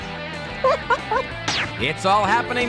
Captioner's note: laughing